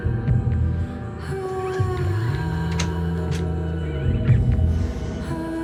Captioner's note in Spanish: Sonido al cerrar la puerta